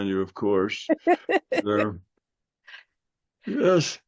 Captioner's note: laughing